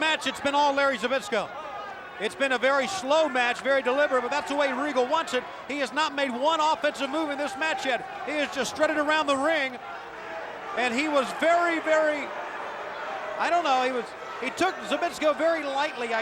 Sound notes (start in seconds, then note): none